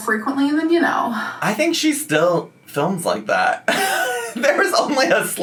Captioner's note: laughs